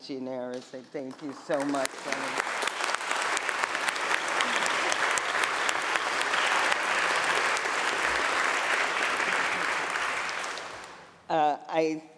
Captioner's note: applause